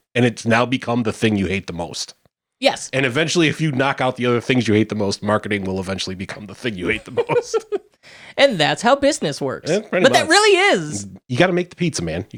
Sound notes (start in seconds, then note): 7.6 laughing